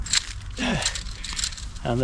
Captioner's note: pegs rattle